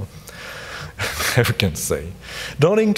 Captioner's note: laughs